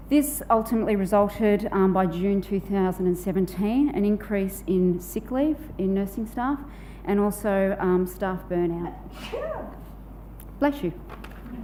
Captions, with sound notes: This ultimately resulted by June 2017 an increase in sick leave in nursing staff and also staff burn-out. (woman sneezing) Bless you.